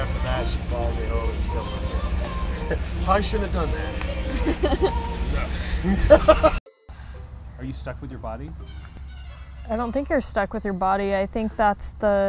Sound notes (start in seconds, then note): 4.0 laughing